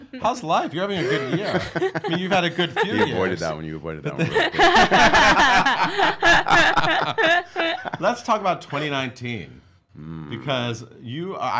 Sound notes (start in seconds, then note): 0.5 laughing; 4.2 everyone laughs